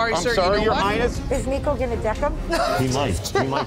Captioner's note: laughs